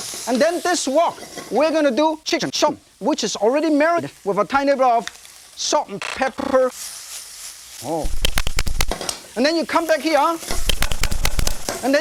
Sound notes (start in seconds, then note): 0.0 stir-frying noises; 6.8 stir-frying noises; 8.0 fapping noises; 10.5 fapping noises